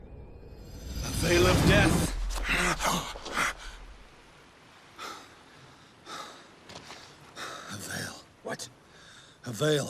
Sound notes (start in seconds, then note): 6.0 gasping